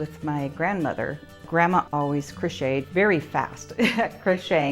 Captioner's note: laughs